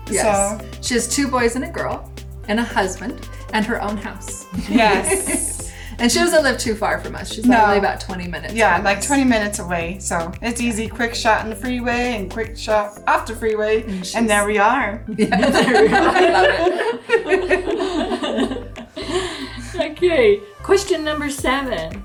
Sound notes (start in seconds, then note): 15.0 all laughing